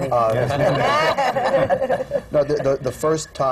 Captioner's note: laughter